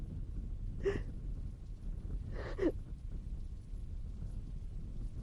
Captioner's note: crying